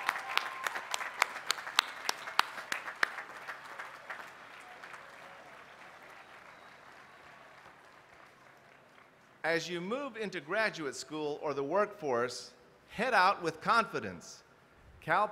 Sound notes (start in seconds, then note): 0.0 applause